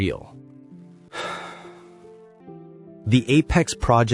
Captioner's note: sigh